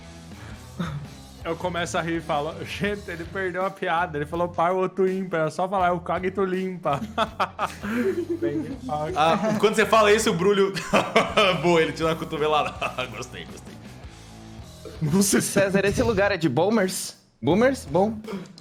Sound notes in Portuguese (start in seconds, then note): 6.8 risos; 15.5 riso